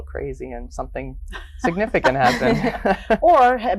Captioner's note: laughs